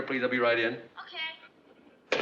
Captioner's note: on phone